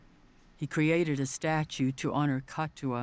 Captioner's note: none